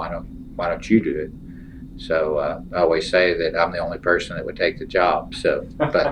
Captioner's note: laughter